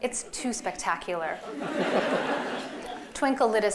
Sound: laughter

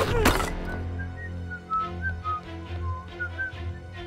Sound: whistling

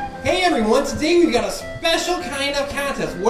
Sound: voiceover

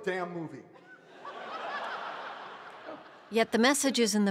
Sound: big laughter

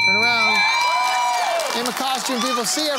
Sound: buzzer ringing

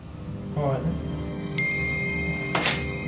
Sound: Oli's phone pings

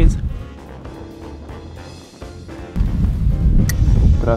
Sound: upbeat music; wind roaring

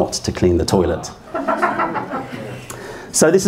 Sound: laughter

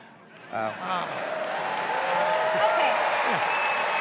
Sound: cheers and applause

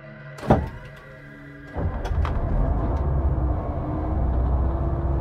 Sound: dramatic music; bus engine starting

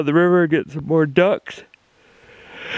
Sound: yawning

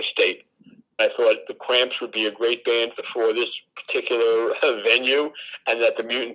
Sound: chuckles

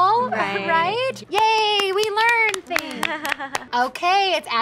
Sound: women applaud

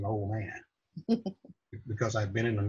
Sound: laughs

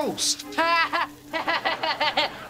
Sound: laughing

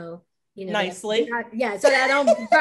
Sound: laughing

